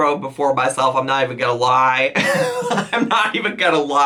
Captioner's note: laughs